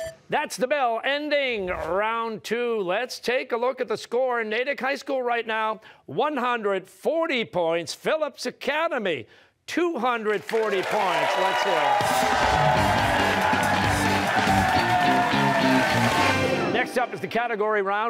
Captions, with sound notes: Oh, that's the bell ending round two. Let's take a look at the score. Natick High School, right now, 140 points, Phillips Academy 240 points. Let's here it. (cheers and applause) Next up is the Category Round,